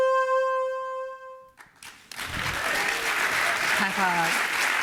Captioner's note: applause